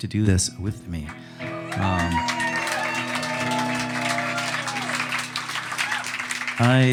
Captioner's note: audience applauding and cheering